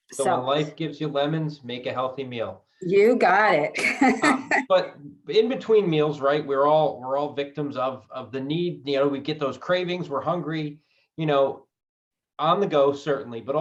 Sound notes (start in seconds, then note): 3.7 laughs